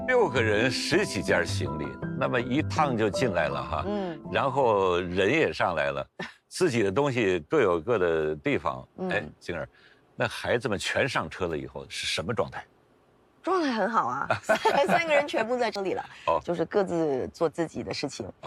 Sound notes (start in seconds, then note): 14.3 laughs